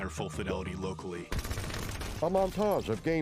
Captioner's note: gunfire